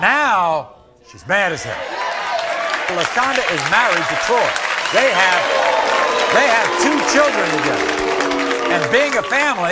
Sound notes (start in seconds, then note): 4.4 audience booing